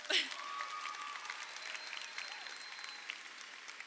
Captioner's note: crowd applauding